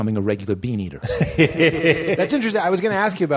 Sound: laughter

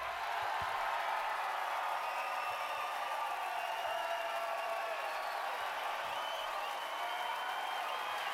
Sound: cheers and applause

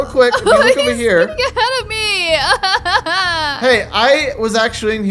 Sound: laughs

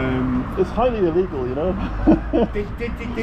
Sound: chuckles

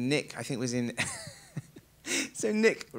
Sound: laughs

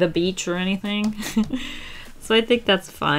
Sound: chuckles

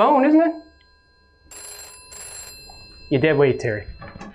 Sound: phone continues to ring

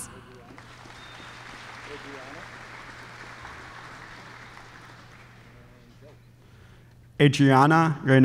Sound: applause

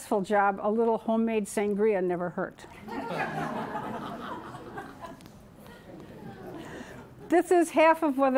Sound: laughter

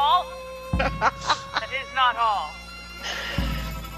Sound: laugh

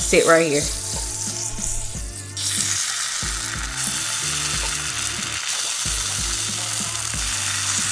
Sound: pan sizzling; soft music

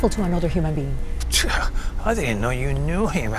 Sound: Mr. Ramirez scoffs

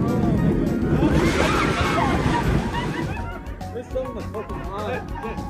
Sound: screaming

